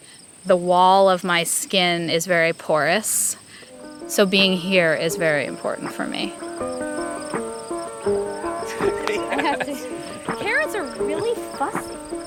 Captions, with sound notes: and I feel like the wall of my skin is very porous. So being here is very important for me. (soft bright music) (everyone laughs) I have to. Carrots are really fussy.